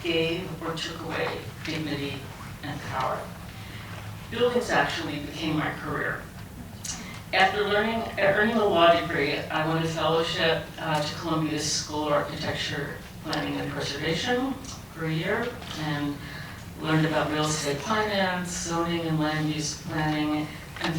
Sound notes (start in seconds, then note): none